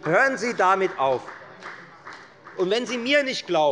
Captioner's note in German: Beifall bei der FDP